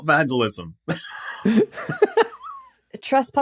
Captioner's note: both wheezing